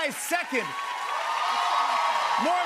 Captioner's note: cheers and applause